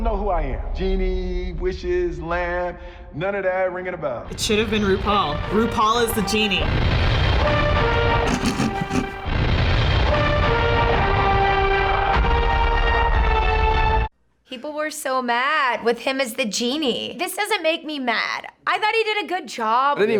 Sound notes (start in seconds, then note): 8.1 snickers